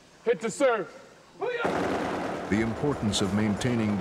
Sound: yelling and explosions; voiceover

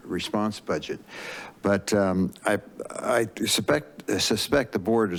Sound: inhales

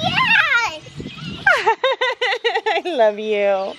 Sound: laughs

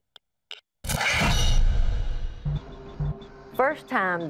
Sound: screech

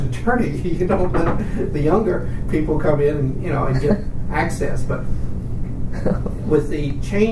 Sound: laughs

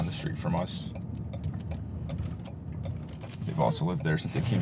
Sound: indictor clicking

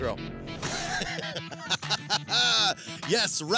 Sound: laughter

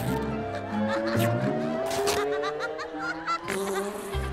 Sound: laughing

